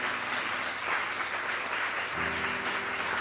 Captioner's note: applause heard